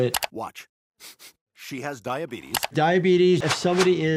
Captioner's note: Brian sniffs